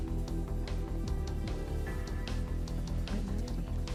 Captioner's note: intense music; whispering